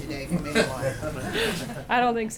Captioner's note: laughter